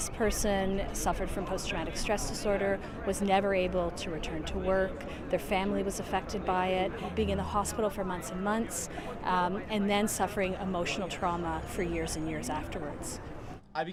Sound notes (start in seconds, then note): none